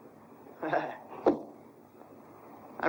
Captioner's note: scoffs